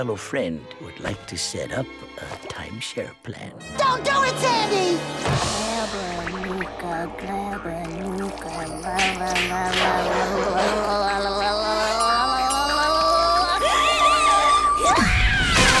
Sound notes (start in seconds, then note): 5.0 chanting; 14.4 grunting